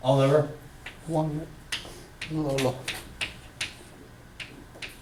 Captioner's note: voiceover